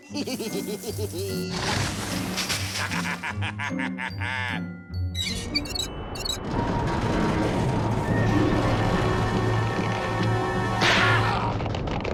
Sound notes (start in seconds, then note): 0.0 chuckles evilly; 2.7 laughing evilly